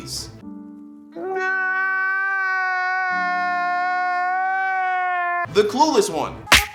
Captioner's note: crying loudly